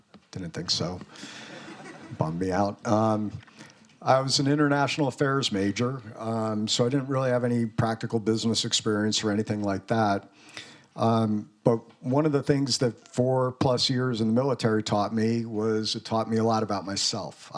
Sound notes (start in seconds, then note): 1.2 students laughing